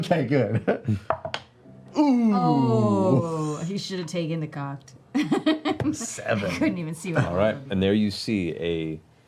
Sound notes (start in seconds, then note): 1.9 groan